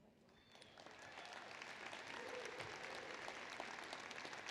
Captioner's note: applause